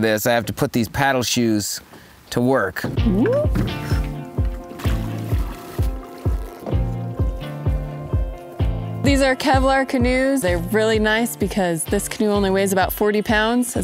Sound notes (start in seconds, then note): 4.4 happy music; 4.4 water sloshing